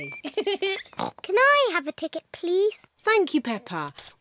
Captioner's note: giggles; oinks